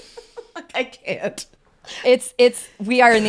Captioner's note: laughing